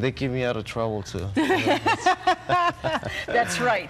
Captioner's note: laughing